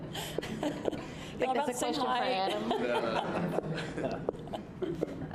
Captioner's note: laughter